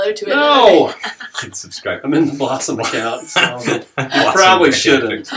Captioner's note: laughter